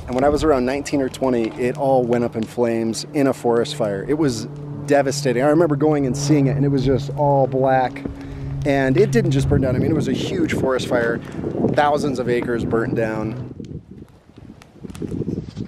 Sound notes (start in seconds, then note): none